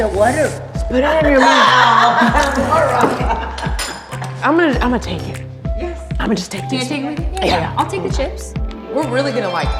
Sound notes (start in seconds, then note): 1.4 women laughing